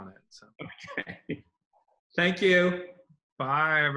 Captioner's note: laughs loudly